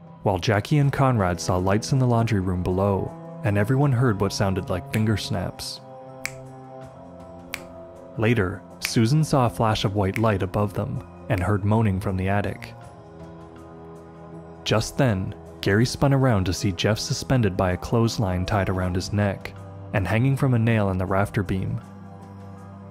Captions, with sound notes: while Jackie and Conrad saw lights in the laundry room below and everyone heard what sounded like finger snaps. [three steady finger snaps] Later, Susan saw a flash of white light above them, and heard moaning from the attic. Just then, Gary spun around to see Jeff suspended by a clothesline tied around his neck and hanging from a nail in the rafter beam.